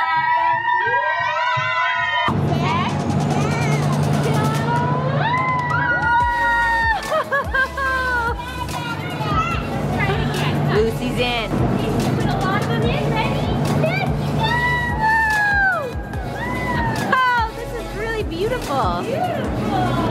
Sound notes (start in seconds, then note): 0.0 group cheers; 4.3 adults cheer